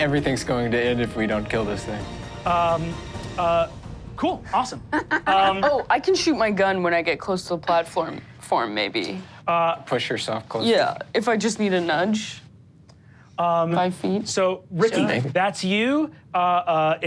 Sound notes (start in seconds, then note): 4.9 Sofia laughs